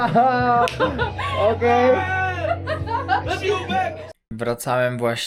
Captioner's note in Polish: śmiech